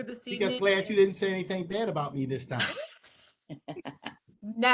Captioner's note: laughter